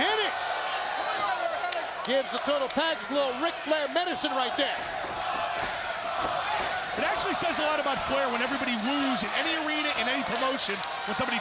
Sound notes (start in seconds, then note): 5.8 crowd chanting